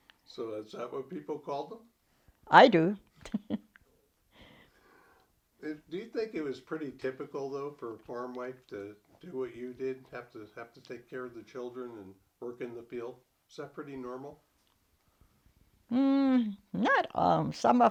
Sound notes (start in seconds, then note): 3.2 chuckles